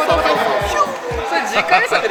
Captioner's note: whoosh